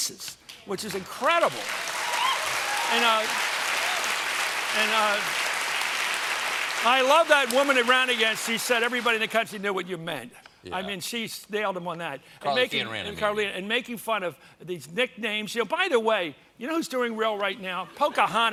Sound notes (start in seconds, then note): 4.8 applause